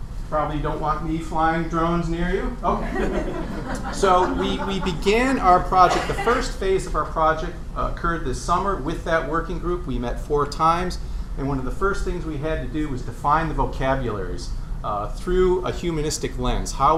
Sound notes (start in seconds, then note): 2.6 laughter